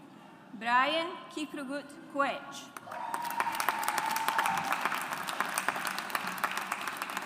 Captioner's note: audience applauds